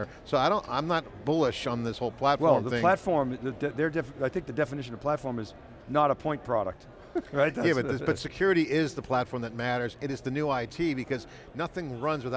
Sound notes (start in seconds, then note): 7.0 chuckles